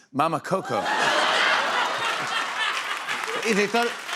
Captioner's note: laughter